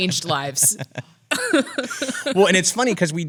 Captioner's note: laughs